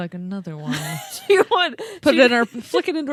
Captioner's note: laughing